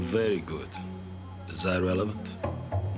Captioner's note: Russian accent